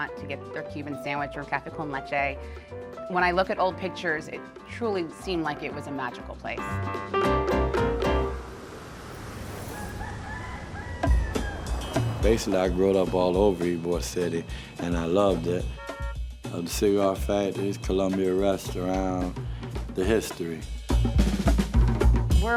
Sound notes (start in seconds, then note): 9.6 rooster crows; 15.6 car horn honks